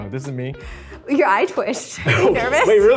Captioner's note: laughs